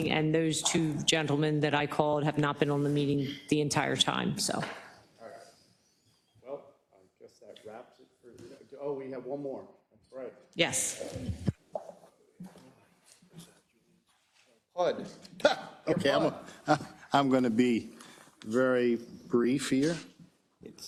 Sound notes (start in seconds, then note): 15.9 laughs